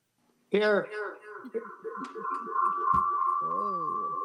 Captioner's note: chuckling; voice echoing